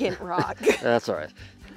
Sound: laughing

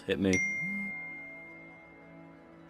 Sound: text notification

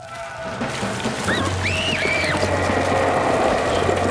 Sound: screaming

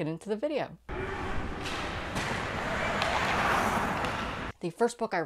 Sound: skates clashing on ice

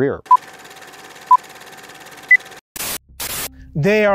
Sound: film rolling; beeping

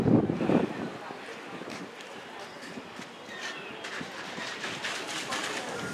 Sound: whistling

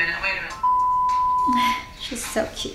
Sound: beep sound

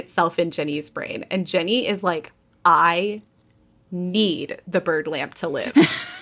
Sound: laughing

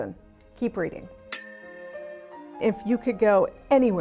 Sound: bell dinging

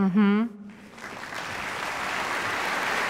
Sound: audience applause

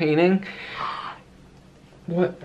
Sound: gasps

